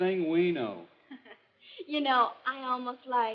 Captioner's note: laughs